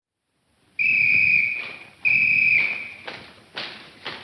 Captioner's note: whistle tweeting; shoes clacking